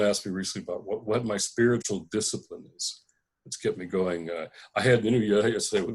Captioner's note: conversation